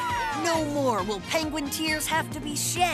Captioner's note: cheering